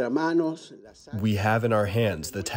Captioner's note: through translator